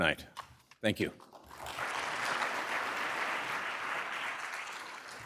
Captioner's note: applause